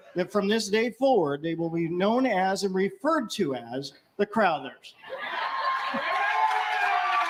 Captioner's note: cheers & applause